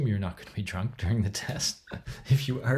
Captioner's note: laughs